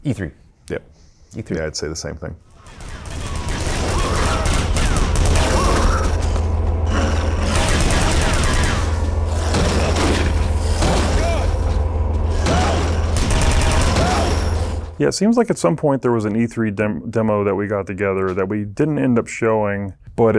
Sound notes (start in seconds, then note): 2.6 loud rapid gunfire; 3.3 monster growling; 12.2 loud rapid gunfire